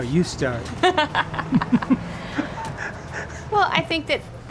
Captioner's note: laughing